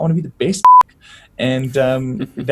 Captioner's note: laugh